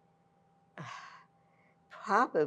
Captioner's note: sighing